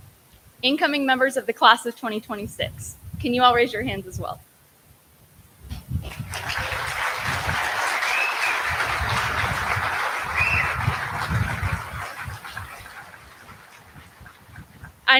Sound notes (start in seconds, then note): 4.4 applause